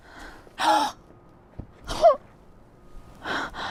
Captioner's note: gasp